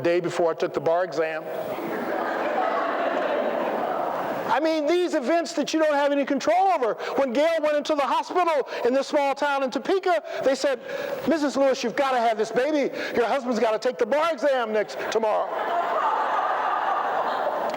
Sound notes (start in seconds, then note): 4.5 laughter